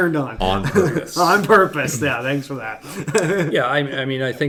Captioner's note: laughs